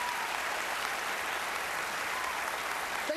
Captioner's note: applause